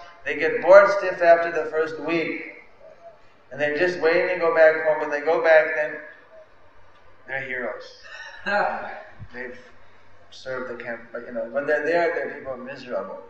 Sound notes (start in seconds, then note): 7.9 laugh